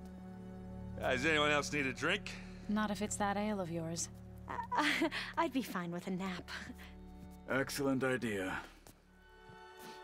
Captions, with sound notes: Ah, does anyone else need a drink? Not if it’s that ale of yours! (laugh) I’d be fine with a nap. Excellent idea!